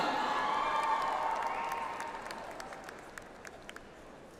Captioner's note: audience applauds